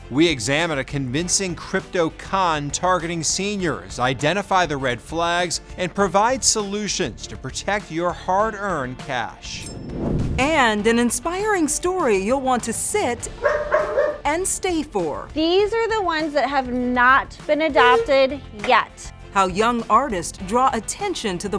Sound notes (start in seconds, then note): 13.3 dog barking